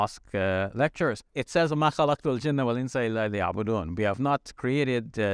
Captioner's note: speaks in foreign language